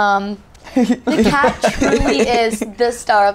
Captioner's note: laughing